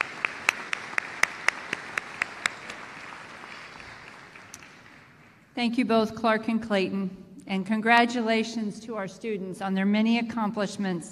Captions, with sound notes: Chris. (Applause). Into thank you both Clark and indicaten and congratulations to our students on their many accomplishments